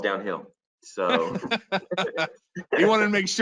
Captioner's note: laughs